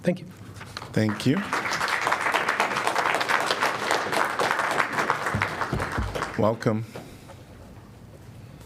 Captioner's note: applause